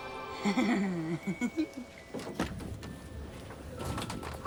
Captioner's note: Jamie laughs